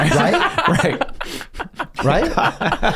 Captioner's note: laughs